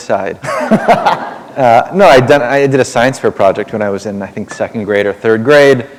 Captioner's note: laughter